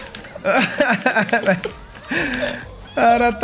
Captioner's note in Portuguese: risos